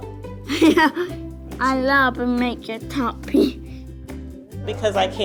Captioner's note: laughs